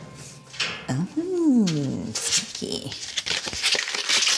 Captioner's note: paper rustles